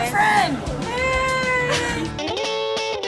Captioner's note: exclaims; upbeat music